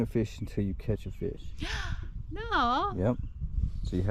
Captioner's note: gasps